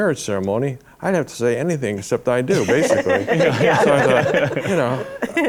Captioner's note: laughter